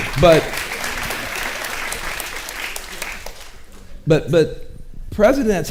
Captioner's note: audience applauding